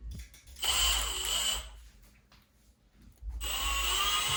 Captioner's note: drill whirs